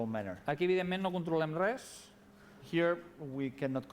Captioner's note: non-english speech